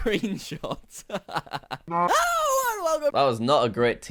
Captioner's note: laughs